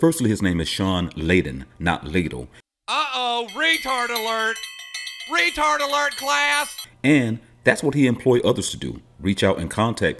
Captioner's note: animated man Rings bells